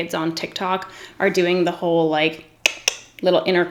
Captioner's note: clicks teeth